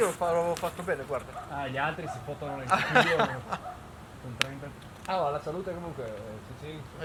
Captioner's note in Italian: risate